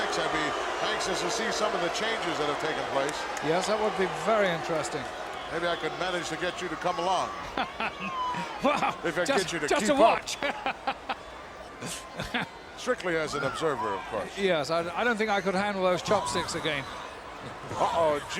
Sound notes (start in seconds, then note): 7.4 laugh